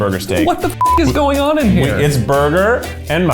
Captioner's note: beep